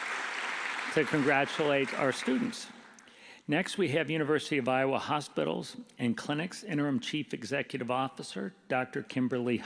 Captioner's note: applause